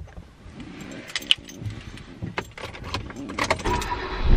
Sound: camera rattling; keys jingle…; engine start

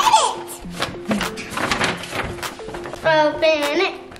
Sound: paper bag rustling

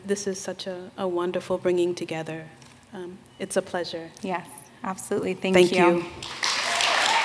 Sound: applause

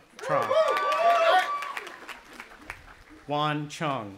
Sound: audience applauding and cheering

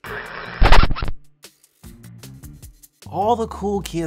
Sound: record scratching

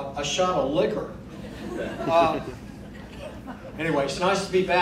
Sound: crowd laughing

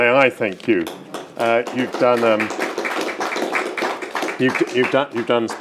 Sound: audience applauding

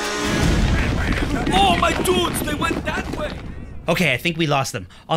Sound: chaotic yelling

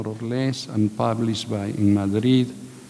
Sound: speaking in a foreign language

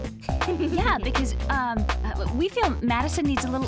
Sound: laughs nervously

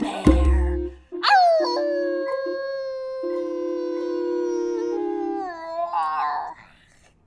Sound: howls

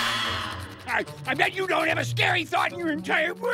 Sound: crying

